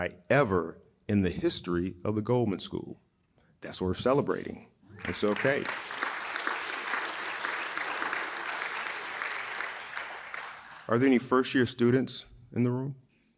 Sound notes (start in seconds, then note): 5.0 audience applauding